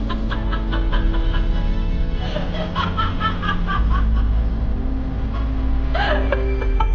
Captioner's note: dramatic sinister music; Carolyn chuckling